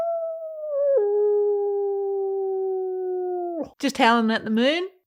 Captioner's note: howls